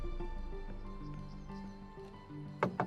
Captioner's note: birds chirping